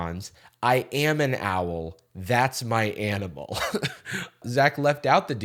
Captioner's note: chuckles